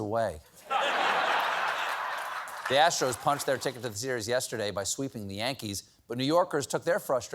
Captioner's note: laughter